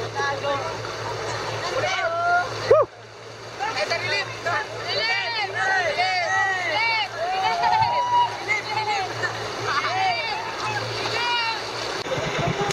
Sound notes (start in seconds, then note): 6.6 shouting in foreign language